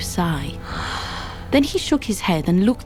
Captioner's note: Donan sighs